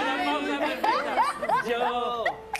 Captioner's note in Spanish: risas